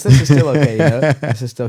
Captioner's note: laughs